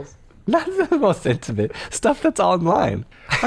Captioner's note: chuckling